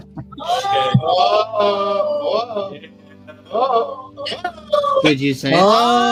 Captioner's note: multiple"'oh's"